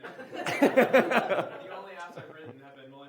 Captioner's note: audience laughs